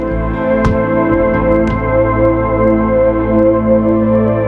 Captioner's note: thumping